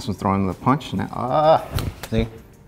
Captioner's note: arms smack together